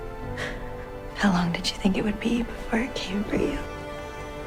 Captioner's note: voiceover